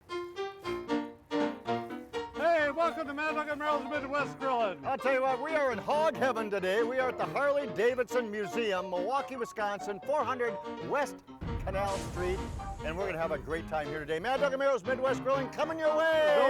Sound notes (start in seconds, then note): 0.7 upbeat piano music; 11.5 flames sizzle